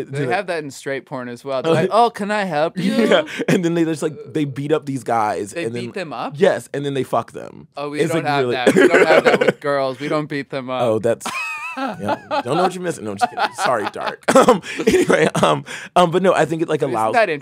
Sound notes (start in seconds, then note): 11.3 laughs